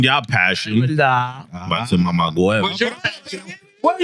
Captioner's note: speaking In Foreign Language